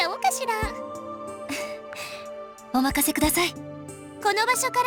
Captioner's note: chuckle